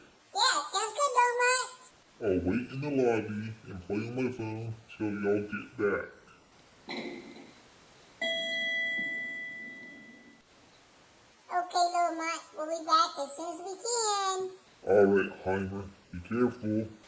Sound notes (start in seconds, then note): 8.2 elevator dings